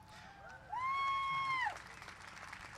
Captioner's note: cheering